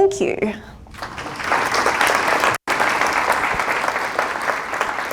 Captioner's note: applause